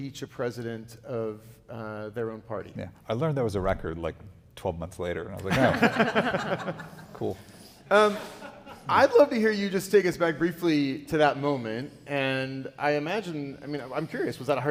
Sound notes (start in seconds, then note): 5.4 audience laughing